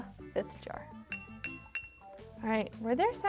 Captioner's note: jar tinking